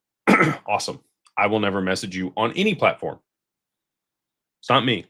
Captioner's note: cough and clears throat